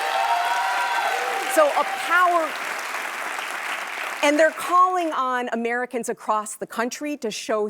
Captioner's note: applause